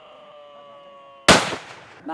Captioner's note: shots fired